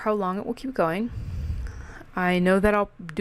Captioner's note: REALLY breathe into mic